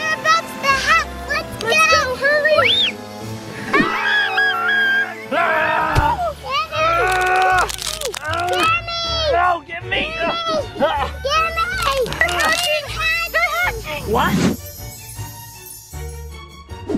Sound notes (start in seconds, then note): 5.3 screams